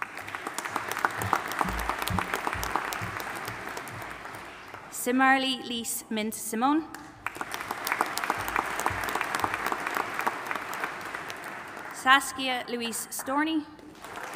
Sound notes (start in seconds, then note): 0.0 audience applauding; 7.2 audience applauding